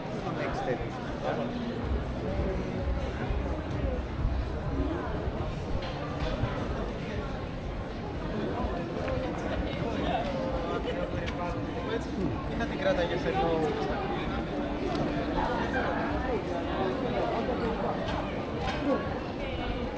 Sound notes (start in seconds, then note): 2.7 people chattering; 5.1 people chattering